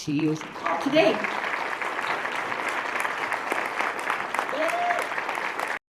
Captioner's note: applause